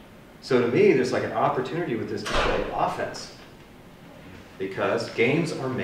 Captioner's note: door slam